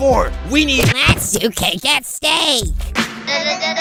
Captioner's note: smack!